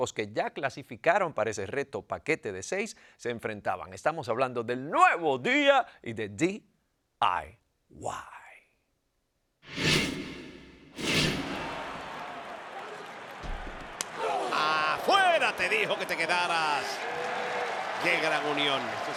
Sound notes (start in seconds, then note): 11.8 applause